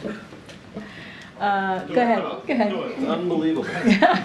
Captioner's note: laughs